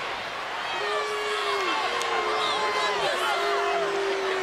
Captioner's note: fans holler and boo